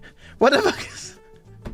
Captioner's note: breathlessly